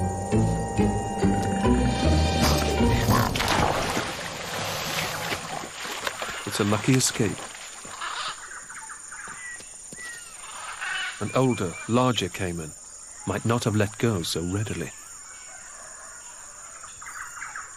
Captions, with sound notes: (caiman growling) (water splashing) It's a lucky escape. An older larger caiman might not have let go so readily.